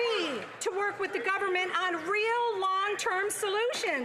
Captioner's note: some Applause